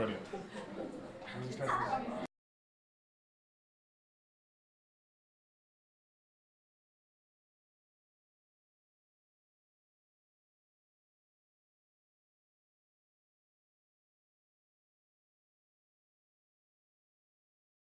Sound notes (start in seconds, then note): 2.7 audio silenced